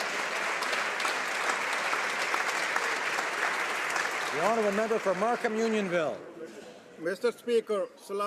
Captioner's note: applause